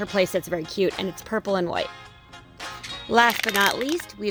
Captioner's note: crumpling